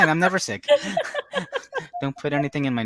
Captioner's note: women laughing